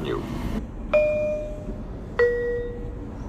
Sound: bell chimes

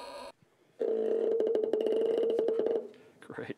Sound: low-pitched squeaking

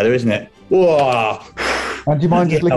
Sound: groans and exhales

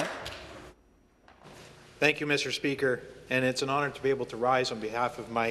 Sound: applause

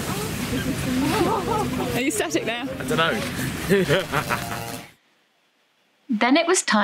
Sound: evil laugh

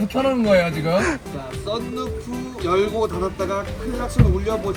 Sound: hiss

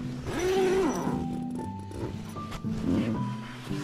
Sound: zipper

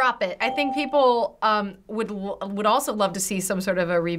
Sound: ding

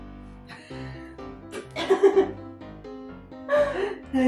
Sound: giggle

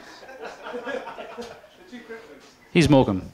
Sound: laughter

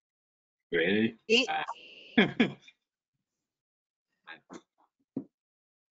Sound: chuckles

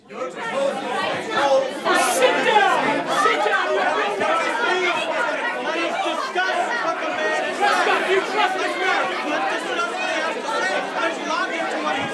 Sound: angry crowd ambience

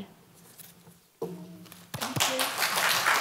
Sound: applause

